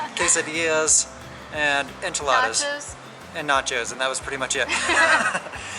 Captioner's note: laughter